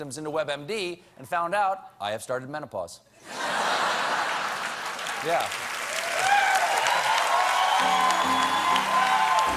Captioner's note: cheers and applause